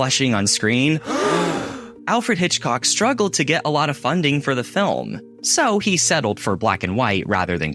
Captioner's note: gasp